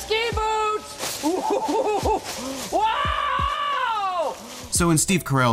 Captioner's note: laughing